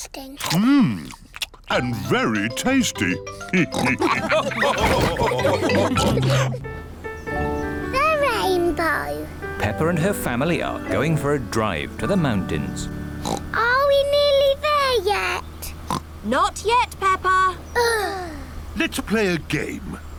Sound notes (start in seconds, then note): 3.8 all laugh; 13.2 oinks; 15.8 oinks; 17.8 both sigh